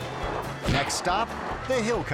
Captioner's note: air whoosh; tires spinning; twangy music